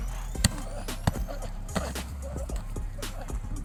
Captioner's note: grunting